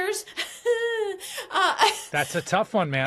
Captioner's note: laughs